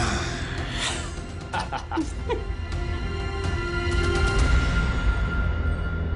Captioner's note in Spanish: Exhala y ríe